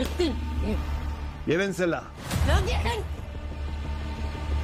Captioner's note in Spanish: Rutila exclama